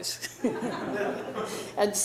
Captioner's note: laughing